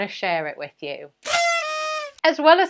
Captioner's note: horn blaring